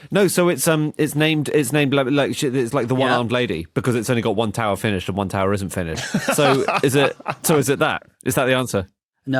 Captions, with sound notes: No, so it's named like, it's like the "one-armed lady" because it's only got one tower finished, and one tower isn't finished. (laughs) So, is it that? Is that the answer?